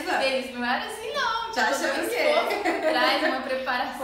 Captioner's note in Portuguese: risos